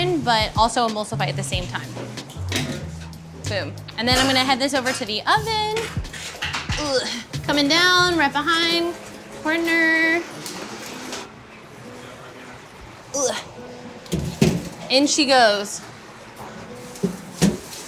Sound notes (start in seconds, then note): 13.1 grunts